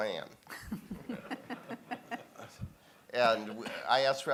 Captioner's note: laughing